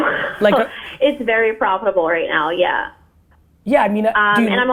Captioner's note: laughs